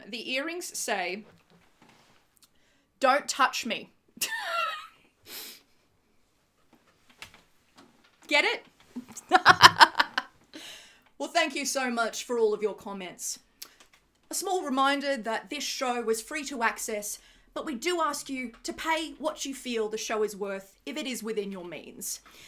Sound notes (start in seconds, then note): 9.2 laughs